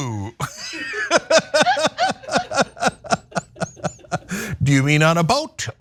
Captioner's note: laugh